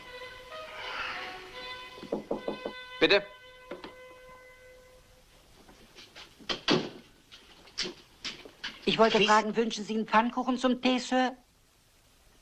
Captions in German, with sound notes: - [klopft] - Herein. Bitte, Sir, möchten Sie einen Donut zu Ihrem Tee?